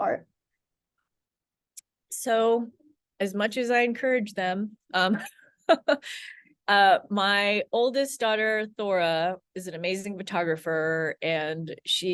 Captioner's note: laughs